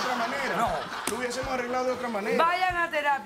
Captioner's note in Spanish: risas del publico